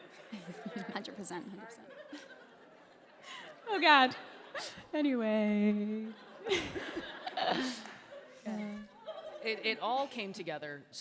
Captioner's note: laughter; magical Laughter Continues